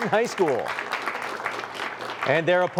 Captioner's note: applause